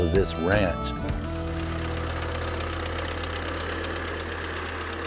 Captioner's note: motor whirring